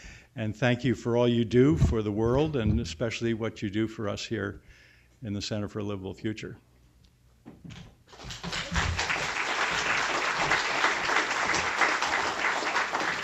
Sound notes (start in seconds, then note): 10.7 applause